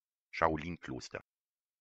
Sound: fast Pronunciation

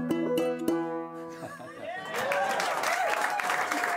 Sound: cheers and applause

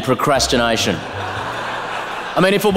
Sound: laughter

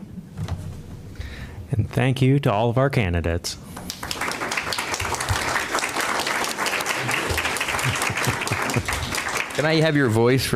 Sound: applause

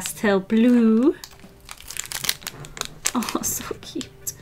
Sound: wrapper crinkling

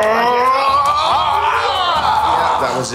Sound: men yelling

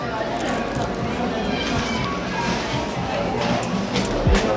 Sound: crowds murmuring

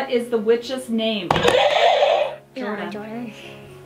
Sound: buzzer sounds

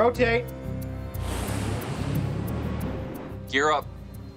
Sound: engine humming

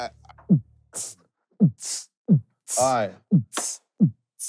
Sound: group beatboxing

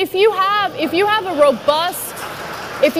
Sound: audience laughs

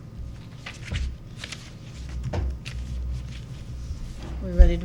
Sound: papers rustling

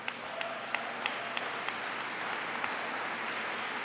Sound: applause

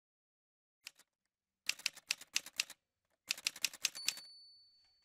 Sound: typewriter sounds

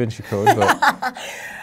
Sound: laughing

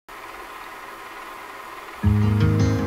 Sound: film tape rolling

